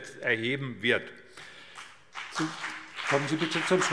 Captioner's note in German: Beifall BÜNDNIS 90/DIE GRÜNEN